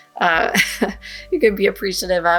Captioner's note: gentle upbeat music; chuckles